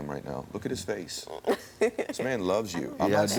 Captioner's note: laughs